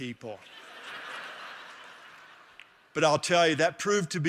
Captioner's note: laughter